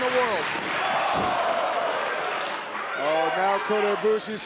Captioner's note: crowd exclaiming